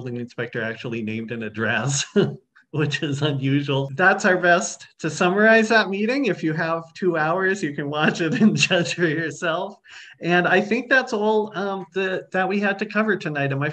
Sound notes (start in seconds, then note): 7.9 laughing